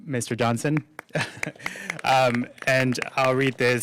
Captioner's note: applause